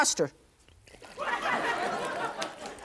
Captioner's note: laughter